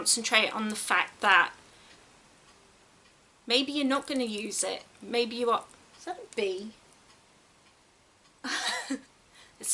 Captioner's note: giggles